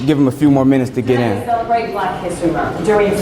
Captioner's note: voice echoes